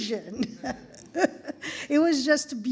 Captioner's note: laughing